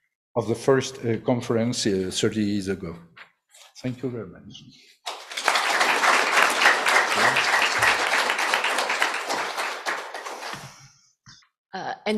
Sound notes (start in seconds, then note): 5.0 applause